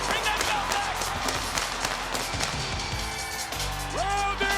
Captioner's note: fireworks popping